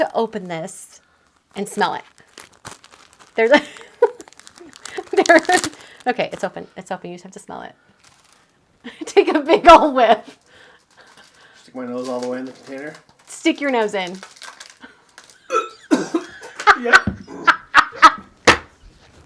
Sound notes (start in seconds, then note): 4.5 laughing; 15.5 gags; 16.3 laughing